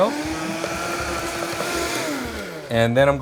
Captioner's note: blender whirring